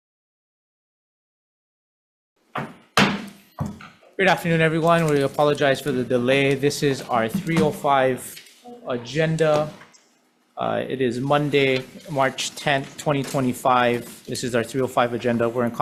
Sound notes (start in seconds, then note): 2.5 gavel bangs